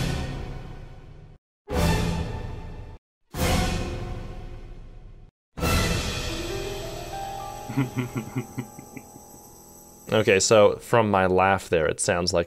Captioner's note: laughter